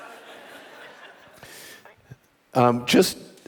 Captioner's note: audience laughing